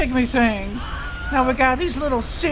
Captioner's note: scream